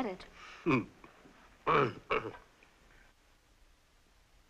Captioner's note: clearing throat